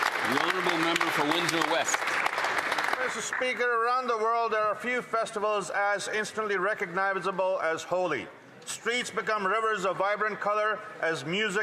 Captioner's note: applause